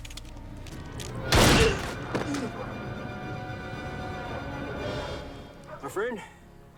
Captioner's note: tense music; gunshots banging